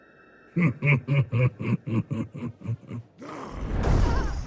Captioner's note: laughs